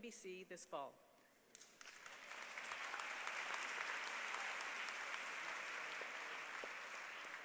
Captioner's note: applause